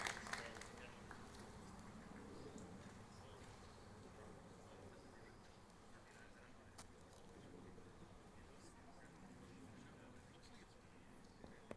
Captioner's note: applause